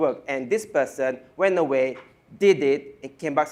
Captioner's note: none